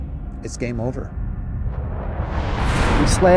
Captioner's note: music -tension/drums steadily building; whoosh